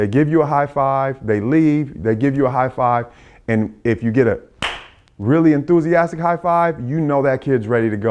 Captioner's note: loud clap